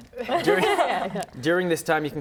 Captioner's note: laughter